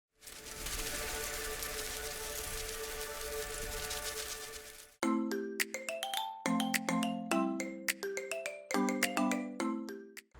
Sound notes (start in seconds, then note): 0.0 butterflies Fluttering; 5.0 peppy Marimba-like Music